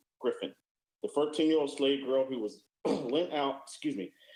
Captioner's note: sneezes